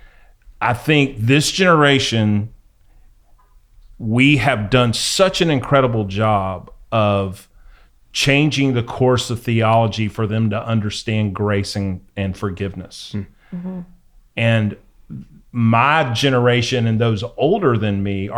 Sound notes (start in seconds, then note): none